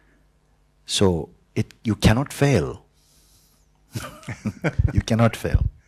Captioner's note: Mooji and questioner laugh